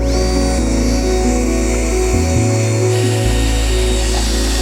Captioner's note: laughs; driller whirring